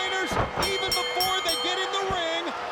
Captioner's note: bell ringing